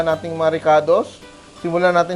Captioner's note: sizzle